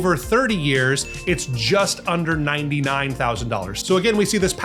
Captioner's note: bell dings